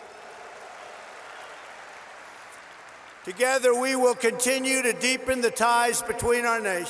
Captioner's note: applause